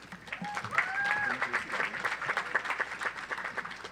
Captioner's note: audience applauds